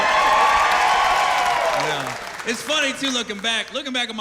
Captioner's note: cheers and applause